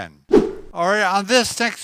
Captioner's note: whip sound